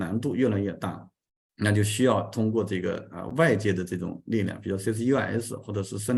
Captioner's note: continues to speak in Chinese